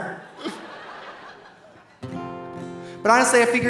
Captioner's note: audience laughing